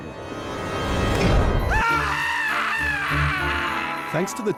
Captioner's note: screams